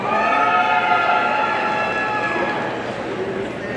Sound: audience cheering

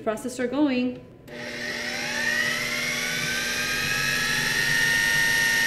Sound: food processor whirring

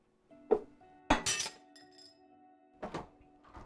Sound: glass breaks

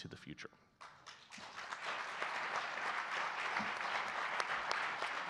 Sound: audience clapping

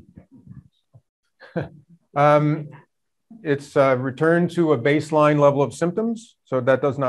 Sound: chuckles

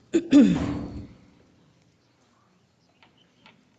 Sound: clears throat

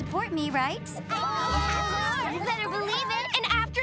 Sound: cheering

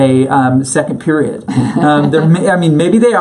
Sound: laughs

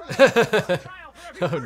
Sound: chuckles

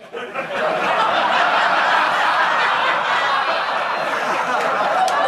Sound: audience laughing loudly

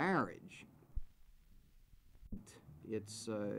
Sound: silence

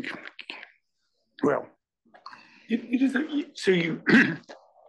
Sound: cough

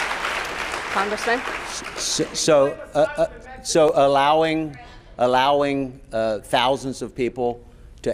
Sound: applause

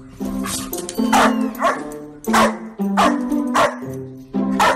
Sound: bark

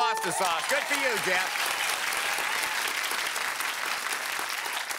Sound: applause

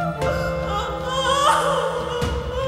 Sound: cries in agony

